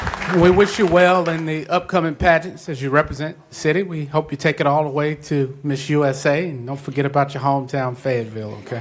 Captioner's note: applause